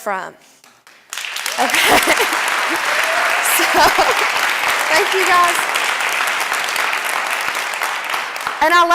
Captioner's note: clapping